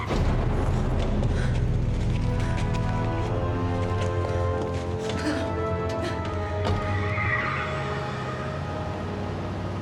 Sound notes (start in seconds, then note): 5.1 Ellie grunts; 6.7 tires squeal